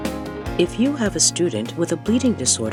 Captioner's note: voiceover